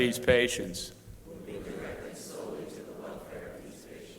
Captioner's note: crowd repeating